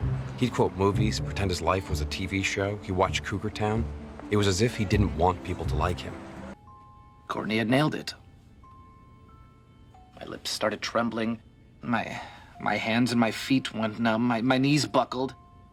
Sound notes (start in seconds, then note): none